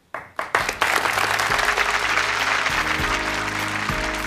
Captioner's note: applause